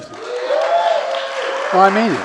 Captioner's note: applause